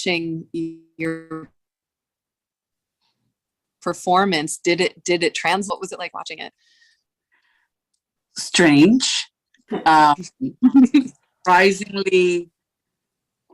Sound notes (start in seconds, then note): 10.6 laughter